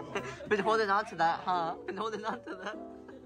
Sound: laughs

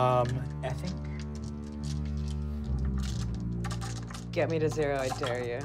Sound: dice rolling

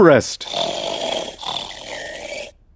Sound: snoring

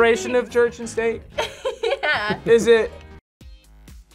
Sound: laughs

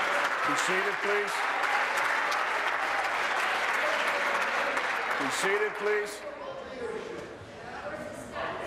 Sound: applause

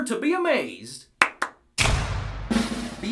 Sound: clap clap; drumroll

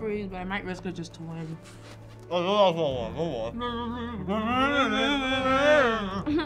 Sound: both mumbling

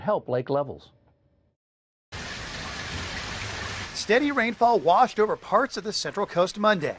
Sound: rainfall

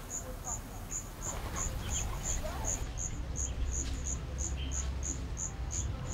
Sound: forest noises

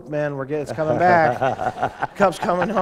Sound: laughter

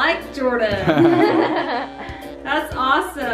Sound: everyone laughing

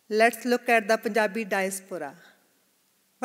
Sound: none

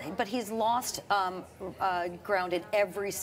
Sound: none

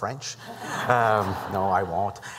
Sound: laughter

